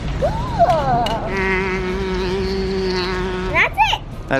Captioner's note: imitates buzzing